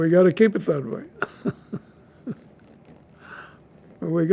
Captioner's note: laughing